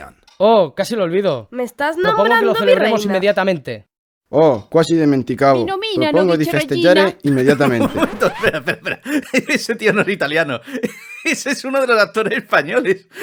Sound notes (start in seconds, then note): 4.1 speaking in badly acted Italian